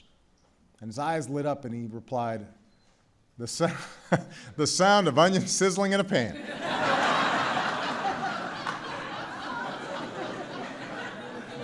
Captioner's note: laughter